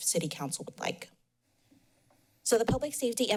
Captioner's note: pause